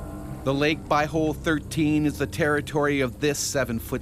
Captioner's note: voiceover